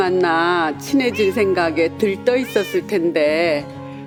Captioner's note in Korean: 고양이 울음소리